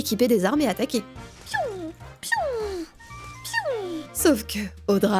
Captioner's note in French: fait le bruitage des sorts